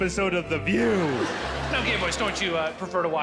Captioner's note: crowd laughing